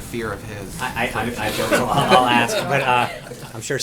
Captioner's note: laughter